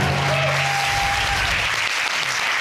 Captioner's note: audience cheering